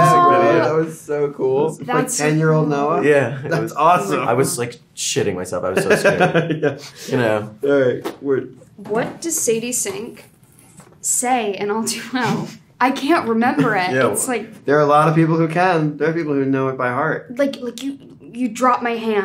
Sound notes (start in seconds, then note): 5.8 Gaten laughing